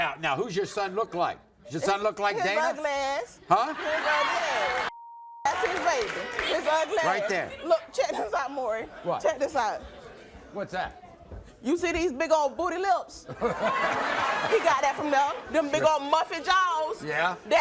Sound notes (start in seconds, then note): 3.5 audience laughs; 7.7 chuckles; 13.5 Maury laughs